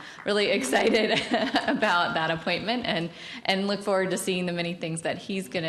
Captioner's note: applause; laughs